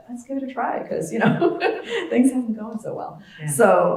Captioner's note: laugh